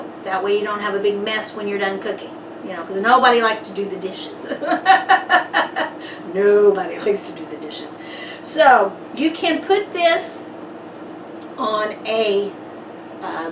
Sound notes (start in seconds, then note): 4.3 laughs